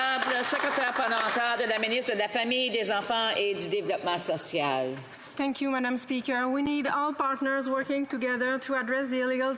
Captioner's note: some Applause